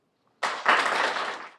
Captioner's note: clapping